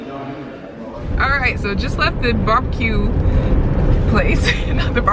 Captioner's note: laughs